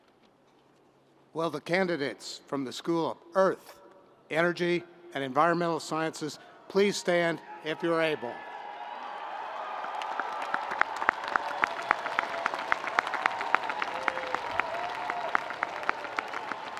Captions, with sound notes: - Well, the candidates from the school of Earth, Energy and Environmental Sciences please stand if you're able. (audience applauding)